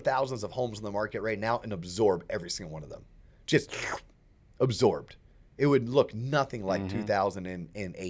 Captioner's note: slurp